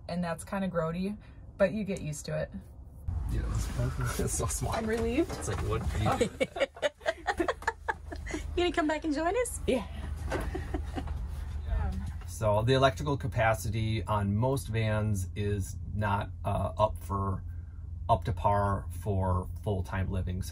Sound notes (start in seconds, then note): 2.6 murmers; 10.3 laughing